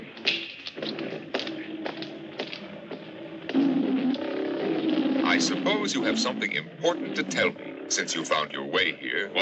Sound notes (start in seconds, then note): 3.5 animals roaring